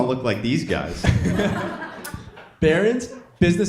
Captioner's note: audience laughing